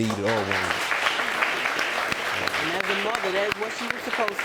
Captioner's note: audience applauding